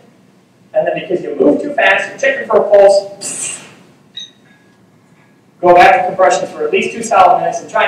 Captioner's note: sparking noise